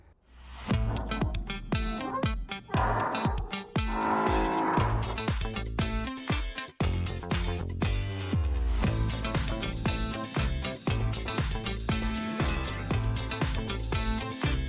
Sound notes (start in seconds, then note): 0.8 cheerful music; 2.5 door creaks; 5.4 cheerful music